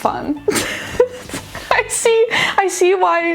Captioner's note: laughing